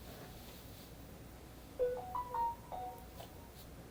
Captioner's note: phone ring